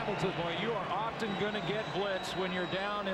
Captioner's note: cheering and applause